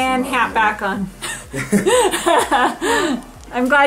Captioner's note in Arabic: كلاهما يضحك